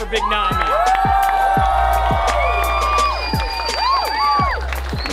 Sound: cheering and clapping

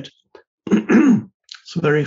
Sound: Eckhart clearing throat

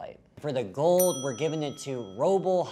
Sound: bell dings

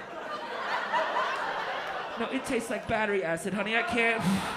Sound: laughter

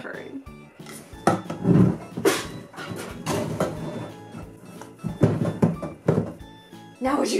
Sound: furniture dragging against the floor

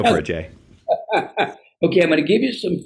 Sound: laughs

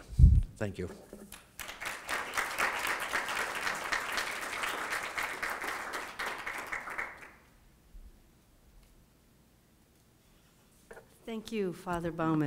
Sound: applause

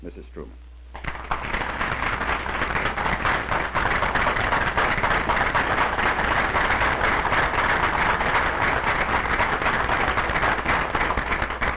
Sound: applause

